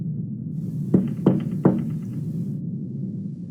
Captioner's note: Listener knocks on Alastor's door fx